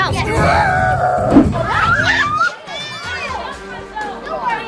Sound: screaming

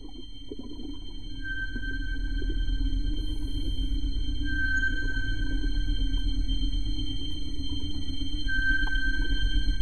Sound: sonar pings

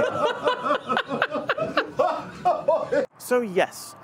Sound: laughing

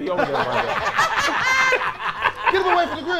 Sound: laughing

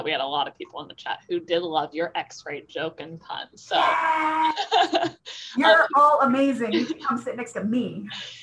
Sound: laughter

